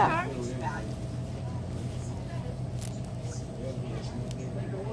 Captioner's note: customers chattering